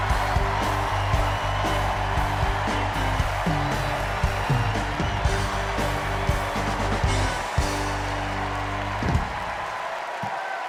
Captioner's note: cheers and applause